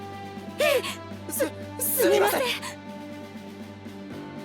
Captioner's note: gulp